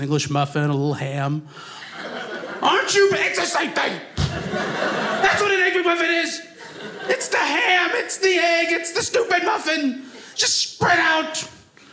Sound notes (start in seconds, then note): 4.1 audience laughing